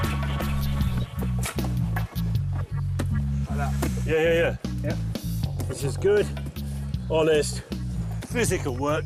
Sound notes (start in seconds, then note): 3.5 earth thumping